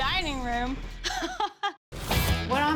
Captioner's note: laughs